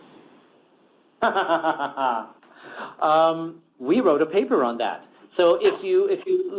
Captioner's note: laughter